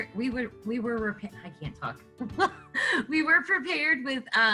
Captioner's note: chuckles